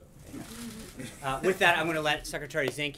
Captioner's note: laughter